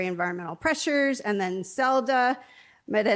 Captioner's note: stammers